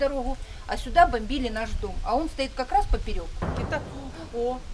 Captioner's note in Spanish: Explosión lejana